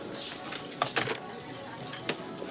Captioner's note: phone clicks onto cradle